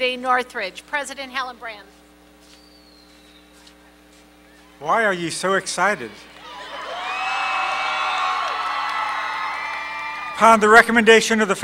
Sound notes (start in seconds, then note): 6.0 cheering